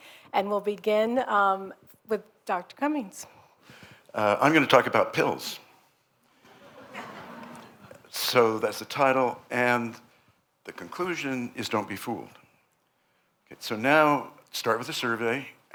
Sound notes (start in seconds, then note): 6.4 laughter